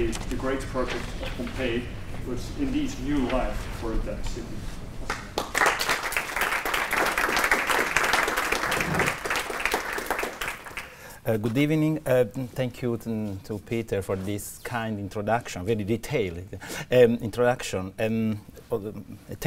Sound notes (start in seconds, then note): 5.0 applause